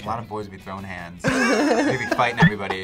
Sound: both laugh

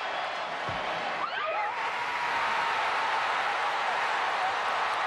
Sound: cheering

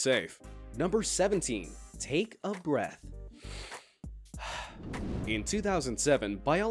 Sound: breathing heavily

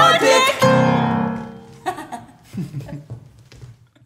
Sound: piano ends – laughter

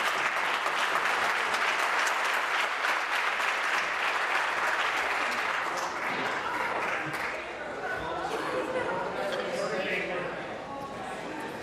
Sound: applause

